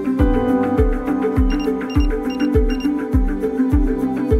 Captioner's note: background music; 4 thermometer beeps